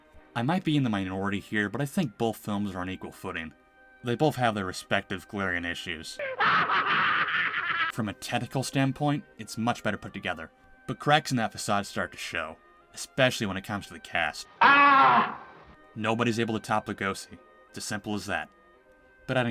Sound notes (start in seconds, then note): 6.2 crazy laughter; 14.6 cheesy Scream